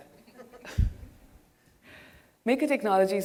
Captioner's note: audience laughing